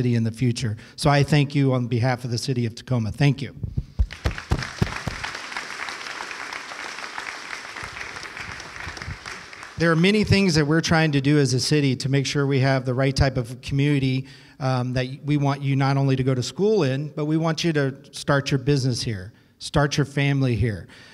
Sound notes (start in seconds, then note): 4.0 applause